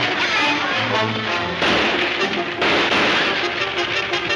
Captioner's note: gunshots banging